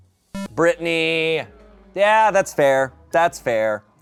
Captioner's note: electronic boop